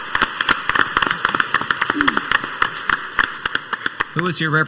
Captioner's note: council members and audience applauding